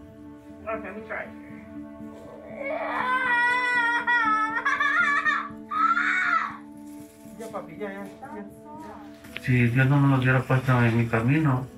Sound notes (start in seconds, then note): 2.5 screams